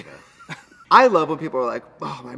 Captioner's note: Katya laughs